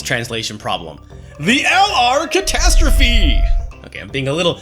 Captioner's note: alarm sirens